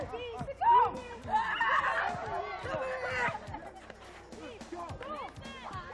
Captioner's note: yelling and laughter